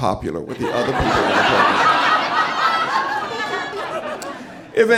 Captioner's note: audience laughing